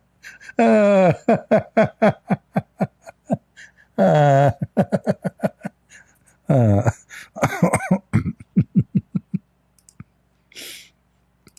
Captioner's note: Ketawa